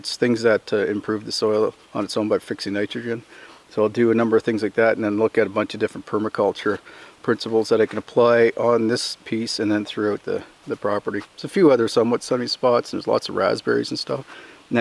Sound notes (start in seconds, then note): none